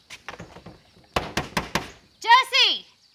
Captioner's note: knocking